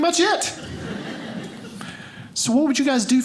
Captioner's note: audience laughing